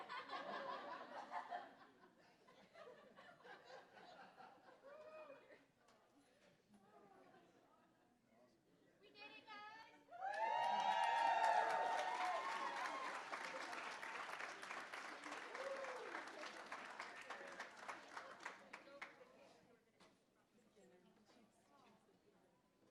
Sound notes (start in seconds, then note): 0.0 laughter; 10.1 cheering; 10.2 applause